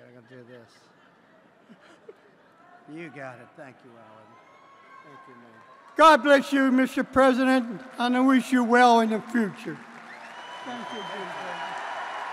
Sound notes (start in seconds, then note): 9.4 applause